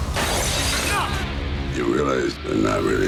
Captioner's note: glass shattering